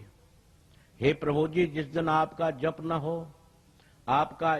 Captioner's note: chanting your name